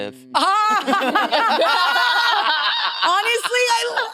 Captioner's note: participants laughing